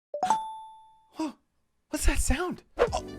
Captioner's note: notification chimes